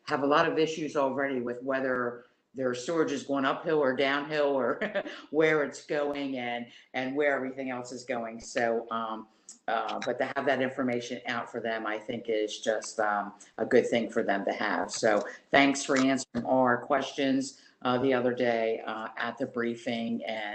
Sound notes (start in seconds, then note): 4.8 laughter